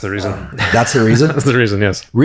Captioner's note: chuckles